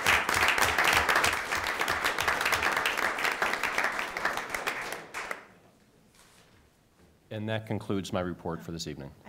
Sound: applause

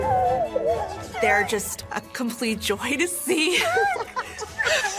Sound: all laughing; chuckles

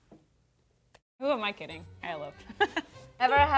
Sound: laughs

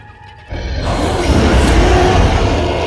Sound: roars

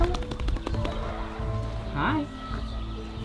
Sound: hands tapping

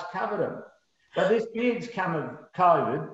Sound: laughs

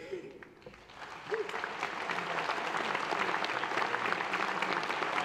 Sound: audience applauds and cheers

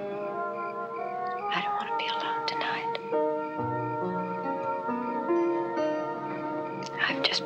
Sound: whispers

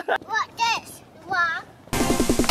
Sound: laughing

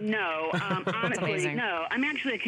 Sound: laughter

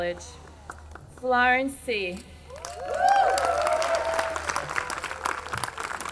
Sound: audience cheering

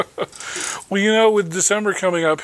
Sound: chuckling

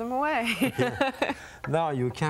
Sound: laughing

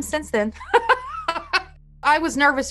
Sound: laughs

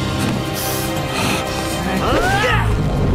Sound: grunting

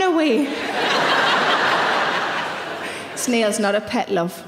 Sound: audience laughing

